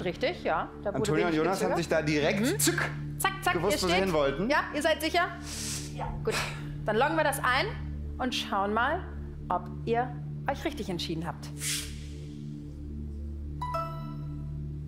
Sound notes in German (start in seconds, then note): none